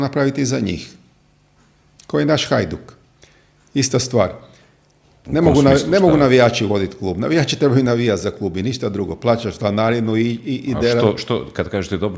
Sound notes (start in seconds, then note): none